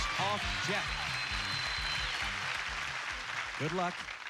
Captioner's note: cheers and applause